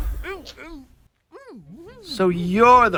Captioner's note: distressed noises